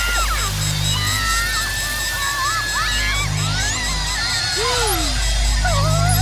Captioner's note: screaming